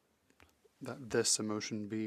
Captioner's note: speaking French